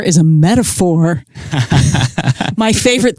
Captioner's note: laughs